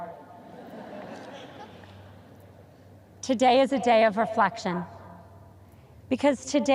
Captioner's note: audience chuckles